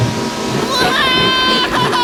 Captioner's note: growling; screaming